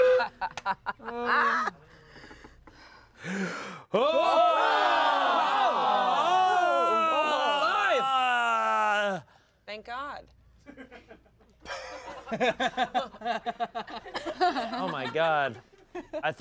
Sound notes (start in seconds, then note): 2.0 gasps; 4.0 everyone yells; 11.6 everyone laughs